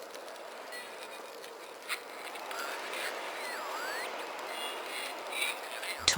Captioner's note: noisy broken radio ♫